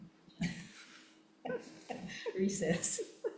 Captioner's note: laughs